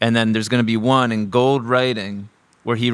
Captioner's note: none